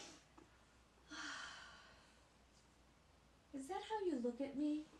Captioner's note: sighing